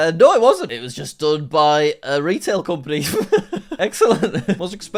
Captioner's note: laughs